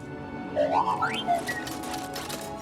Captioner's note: bd-1 chirps